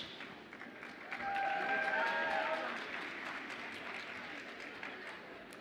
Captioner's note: audience applauds and cheers